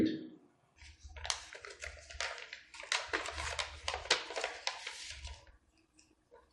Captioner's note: papers rustling